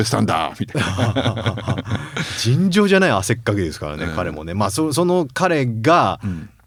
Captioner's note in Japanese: 笑い